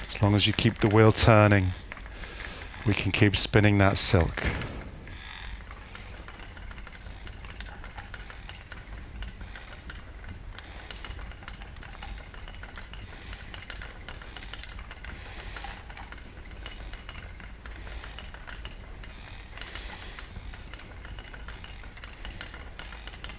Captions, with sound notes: As long as you keep the wheel turning, we can keep spinning that silk. [breathing]